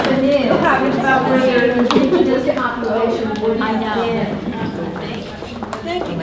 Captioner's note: participants talking at once